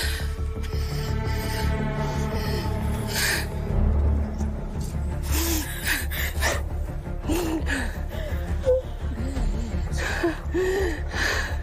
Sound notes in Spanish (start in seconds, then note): 5.1 Sollozos